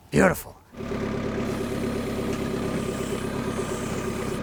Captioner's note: engine roaring